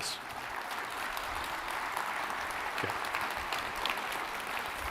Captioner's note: audience applauding